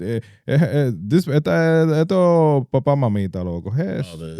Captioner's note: speaking Foreign Language